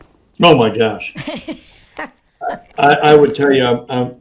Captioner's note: interviewer laughing